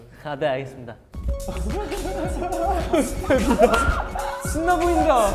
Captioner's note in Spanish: Jajaja